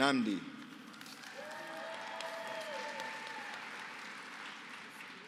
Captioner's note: applause